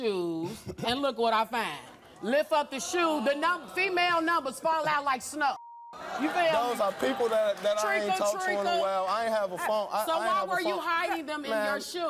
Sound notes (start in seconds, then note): 6.0 audience laughing